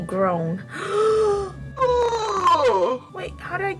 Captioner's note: gasp